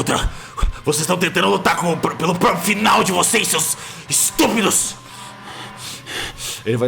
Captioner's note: panting